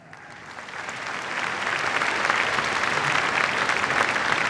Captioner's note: applause